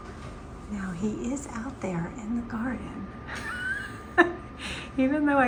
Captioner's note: chuckles